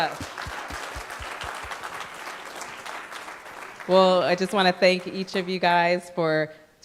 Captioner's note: applause